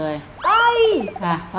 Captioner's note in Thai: ร้องตกใจ